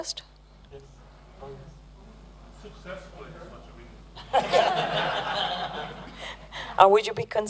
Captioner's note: laughter